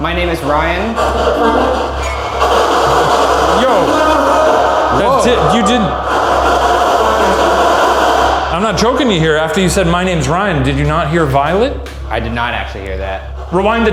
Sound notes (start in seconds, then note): 1.2 dramatic music; 1.2 static buzzing; 2.7 spirit box chattering